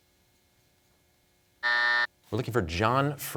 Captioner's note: buzzer sounds